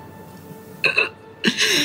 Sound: gasping

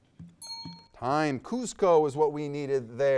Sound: bell dings

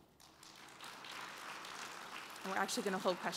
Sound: applause

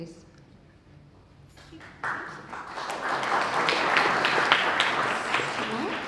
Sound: applause

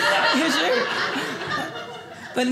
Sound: audience laughing

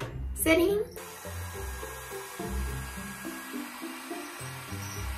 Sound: blow dry sound

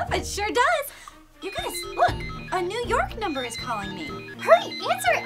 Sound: phone rings

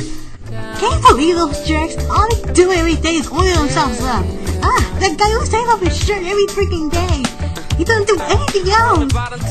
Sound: rambling in the back

